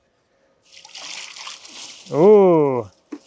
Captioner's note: water sloshing